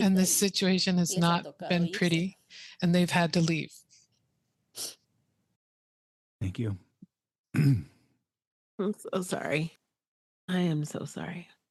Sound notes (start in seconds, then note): 4.7 emotional sniffle; 7.5 clears his throat